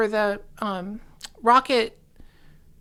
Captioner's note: none